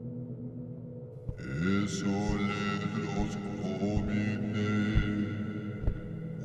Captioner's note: chanting in foreign language